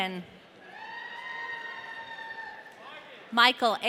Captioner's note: audience cheering